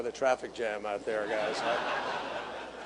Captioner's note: laughter